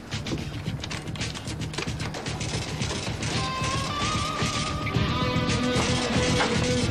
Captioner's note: cash register whirring